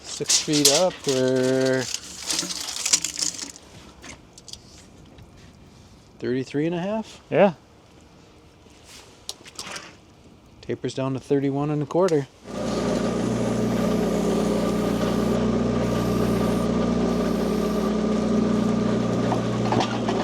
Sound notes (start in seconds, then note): 12.4 loader rumbles